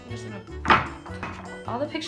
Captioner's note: spooning noises